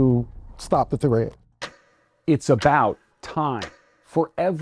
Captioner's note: clock ticking